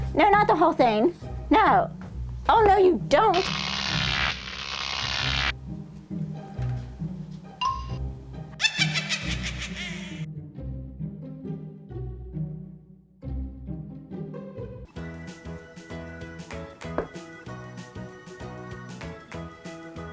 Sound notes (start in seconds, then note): 8.5 witch laugh; 13.7 upbeat music